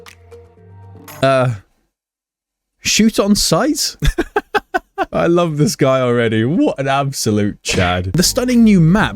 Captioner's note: laughing